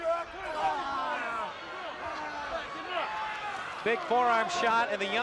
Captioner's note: crowd chatter